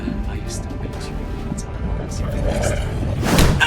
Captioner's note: music swells; growls